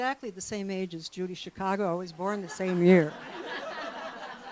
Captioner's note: laughter